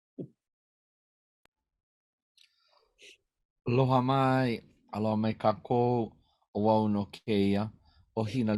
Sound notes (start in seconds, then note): 3.9 speaking in Native language